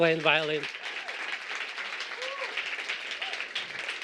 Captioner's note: applause